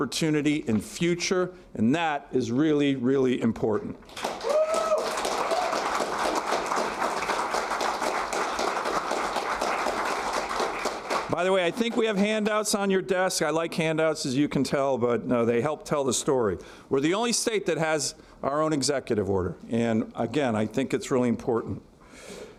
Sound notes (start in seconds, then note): 10.0 applause